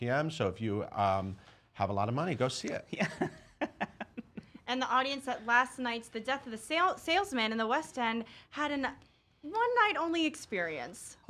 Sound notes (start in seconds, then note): 3.0 laughing